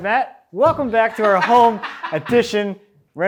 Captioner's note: laughing